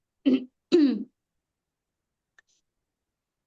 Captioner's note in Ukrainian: прочищення горла